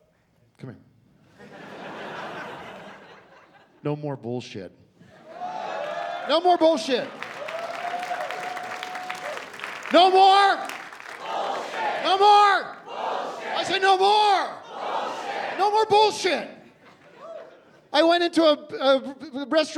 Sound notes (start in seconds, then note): 5.3 scattered cheering; 7.4 cheering and applause